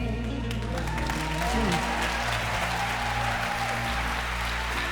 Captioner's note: applause